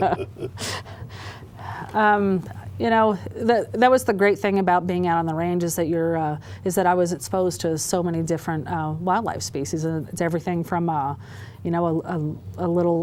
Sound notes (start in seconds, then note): 0.0 laughter